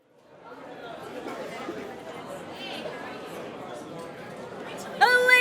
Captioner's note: audience chatters